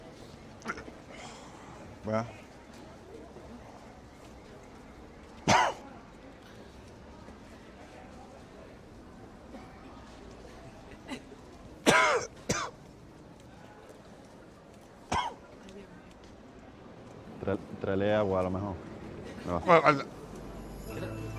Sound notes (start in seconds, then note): 5.4 coughs; 11.8 coughs; 15.1 coughs